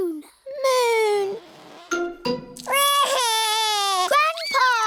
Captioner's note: wails